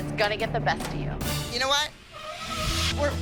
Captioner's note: table screeches